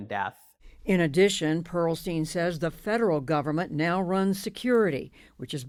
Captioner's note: voice-over